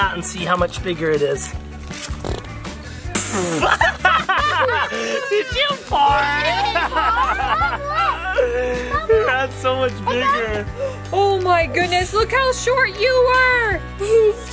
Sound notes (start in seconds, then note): 3.0 farts; 3.3 all laugh